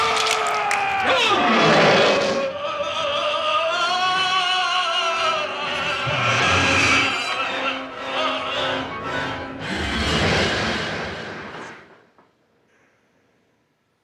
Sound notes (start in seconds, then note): 0.1 Peter yelling; 1.0 Donald growls; 7.8 dramatic music